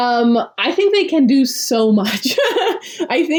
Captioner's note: laughs